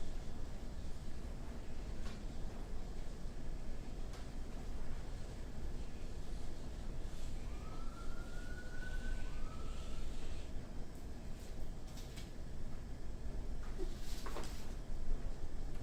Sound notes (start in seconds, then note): 7.3 siren whistles